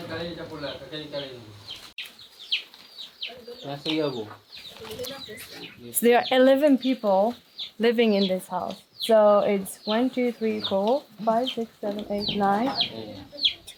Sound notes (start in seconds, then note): 4.8 speaking foreign language